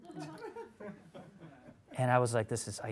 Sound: audience laughs

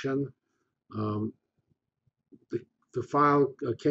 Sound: pause

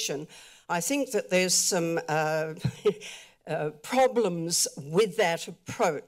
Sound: chuckle

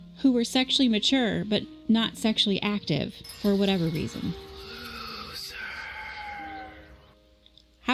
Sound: windchimes and wind whispers "loser"

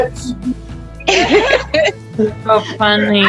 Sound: laughter

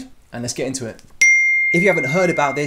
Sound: text dings

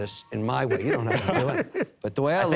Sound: laughing

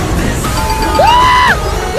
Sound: ding-ding-ding-ding

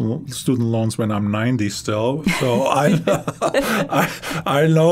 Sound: both laughing

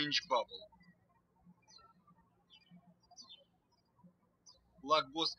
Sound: birds chirping

